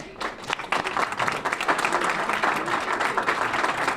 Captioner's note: applause